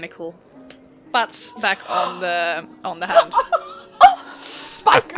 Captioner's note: laughter and noises of dismay